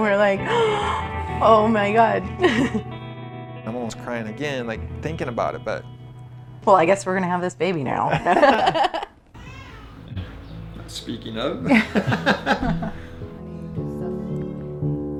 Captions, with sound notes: And we're like, (gasps) oh my god (giggles). I'm almost crying again thinking about it, but. Well, I guess we're gonna have this baby now. (laughing) (baby cries) (light music) Speaking of (laughs).